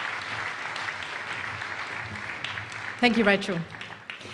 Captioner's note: applause